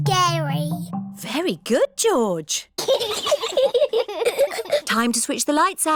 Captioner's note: both giggle